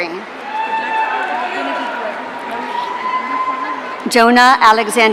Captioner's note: audience cheering